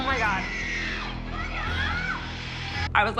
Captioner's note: screaming on video